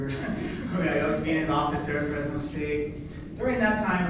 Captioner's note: laughing